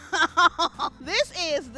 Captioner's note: laughs